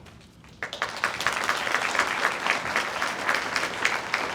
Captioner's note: audience applauds